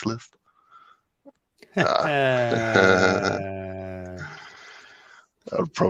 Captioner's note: laughter